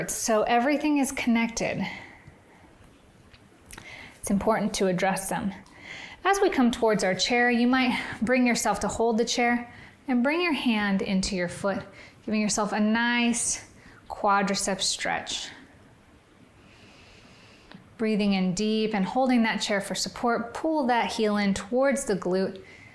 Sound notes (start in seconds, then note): 16.7 inhales